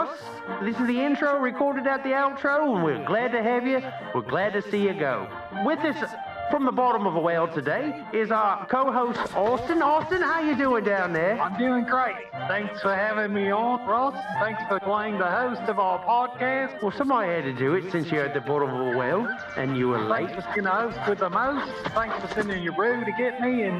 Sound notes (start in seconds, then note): 9.9 kangaroo bouncing; 15.8 outback bird sounds